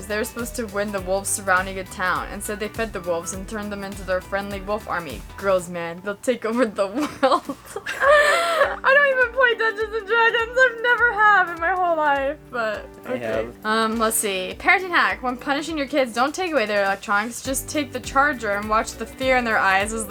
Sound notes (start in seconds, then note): 6.9 laughs